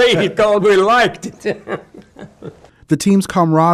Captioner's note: laughs